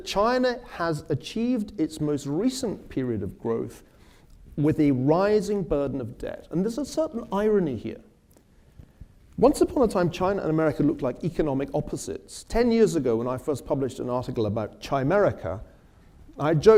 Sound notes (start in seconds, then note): none